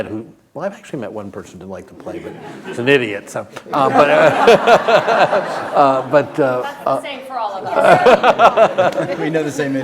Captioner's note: laughter